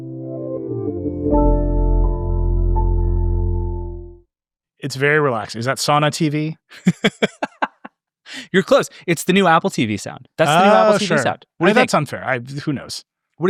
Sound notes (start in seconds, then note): 0.1 warbling zen music; 6.7 laughing